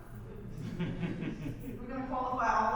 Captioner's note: audience laughs